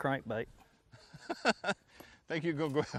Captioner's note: laughs